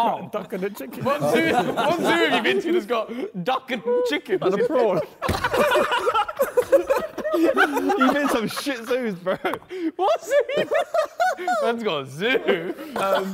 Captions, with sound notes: Duck and a chicken and prawn. (Men laughing)